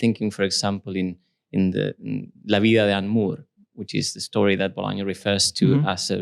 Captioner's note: spanish